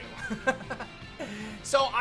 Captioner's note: laughs